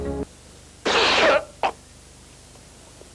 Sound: coughs

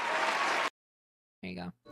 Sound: applause Cuts Off; raucous Applause

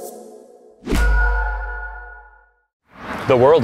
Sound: mysterious ping

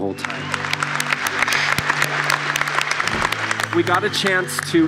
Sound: applause

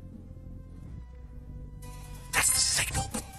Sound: whispering

